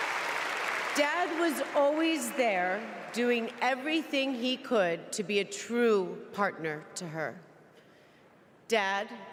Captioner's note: applause